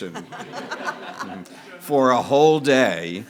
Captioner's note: audience laughing